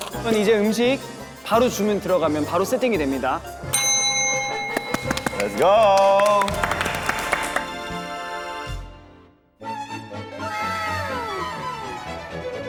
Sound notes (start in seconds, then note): 3.7 ding!